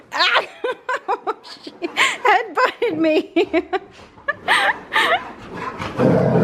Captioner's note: laughing